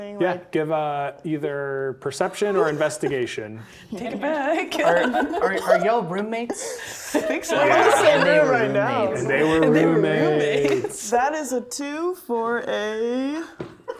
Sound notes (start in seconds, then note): 4.7 laughing